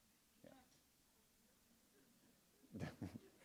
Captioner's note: laughter